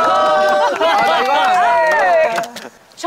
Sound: cracking up

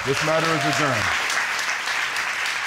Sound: audience applauds

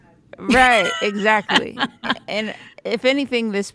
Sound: laughing

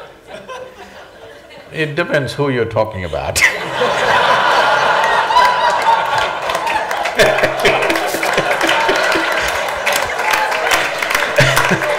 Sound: laughter/Applause

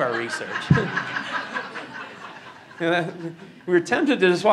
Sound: laughing

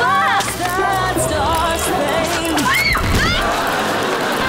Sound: screaming

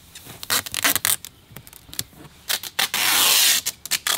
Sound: tape peeling

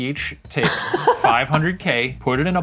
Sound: laughs

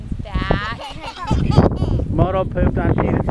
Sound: kids laugh

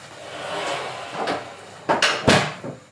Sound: door shuts

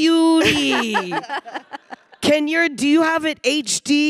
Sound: panelists laughing

